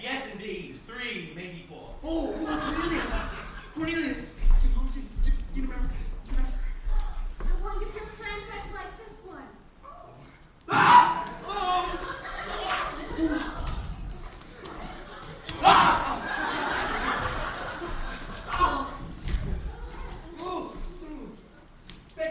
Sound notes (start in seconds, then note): 6.4 stammers; 10.6 yelps; 15.6 both scream